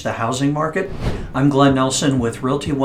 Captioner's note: air whooshing